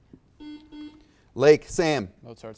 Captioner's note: buzzer beeps beeps